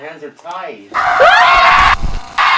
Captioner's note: screaming